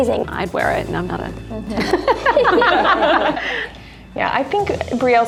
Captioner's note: laughing